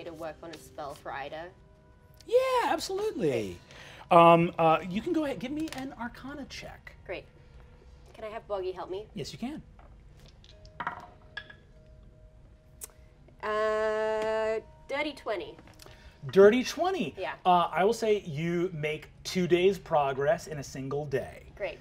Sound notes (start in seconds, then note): 10.8 dice rolling